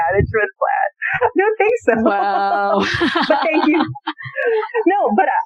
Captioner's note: laughter